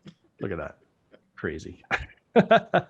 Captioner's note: giggles